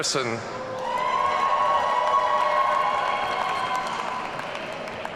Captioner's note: audience cheering